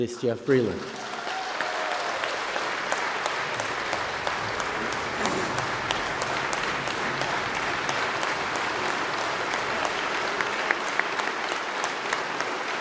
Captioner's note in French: Applaudissements